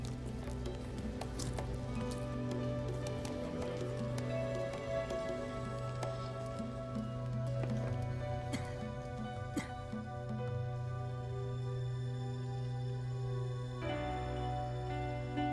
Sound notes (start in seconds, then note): 8.4 Rick coughs; 11.8 gentle music